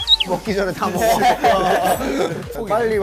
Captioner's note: haha